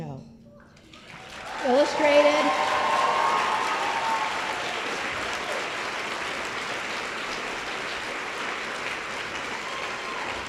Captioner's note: applause